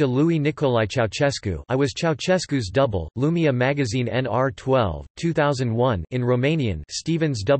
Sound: in Romanian

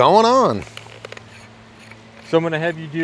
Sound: screwing noises

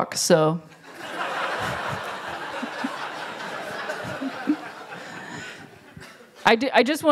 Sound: laughter

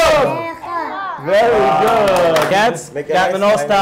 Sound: applause

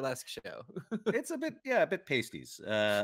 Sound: chuckling

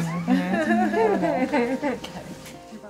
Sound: women laughing

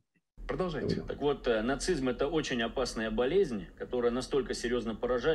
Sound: speaking in Russian

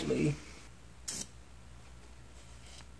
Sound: sprays

